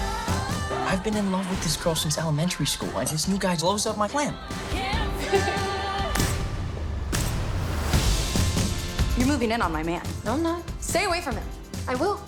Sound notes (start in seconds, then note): 4.7 laughing; 6.1 clapping